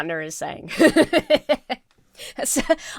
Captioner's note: laughs